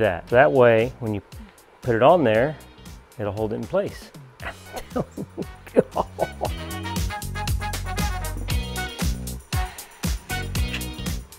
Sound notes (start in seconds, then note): 4.2 laughing; 7.2 upbeat pop music